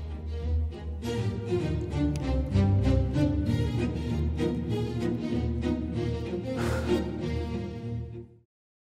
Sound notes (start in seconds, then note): 0.0 fanciful music; 6.5 sighs